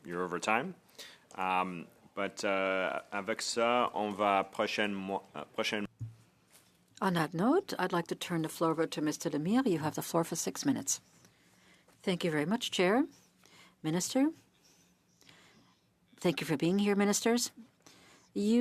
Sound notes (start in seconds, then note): 8.7 speaking French